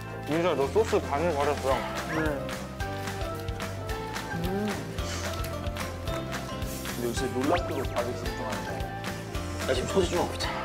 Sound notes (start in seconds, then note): 3.8 eating